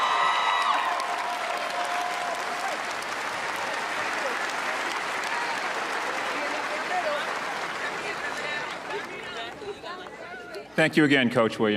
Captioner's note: audience chanting